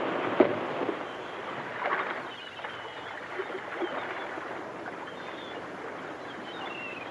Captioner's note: water laps; seagulls caw